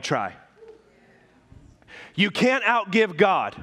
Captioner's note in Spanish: murmullos de congregación